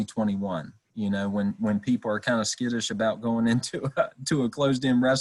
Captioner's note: chuckles